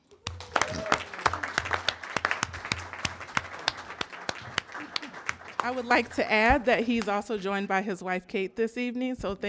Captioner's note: applause